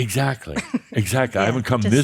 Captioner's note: she chuckles